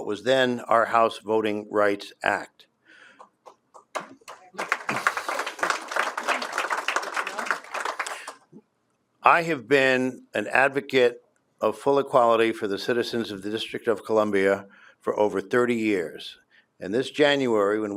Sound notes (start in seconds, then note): 5.7 applause